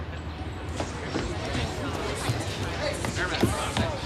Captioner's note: people chattering